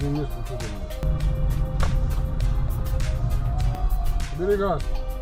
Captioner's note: slaps hands